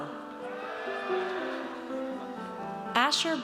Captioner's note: audience cheers